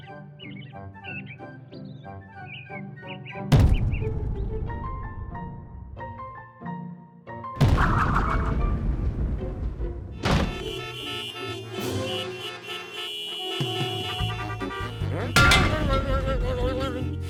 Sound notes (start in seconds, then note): 3.5 thud; 7.6 thud; 10.2 horns honking; 15.2 grunts